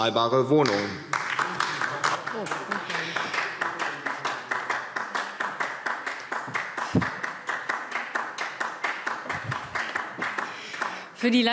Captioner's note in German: Beifall DIE LINKE